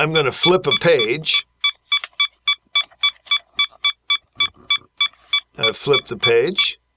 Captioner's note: beeping